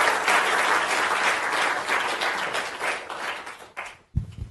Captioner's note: applause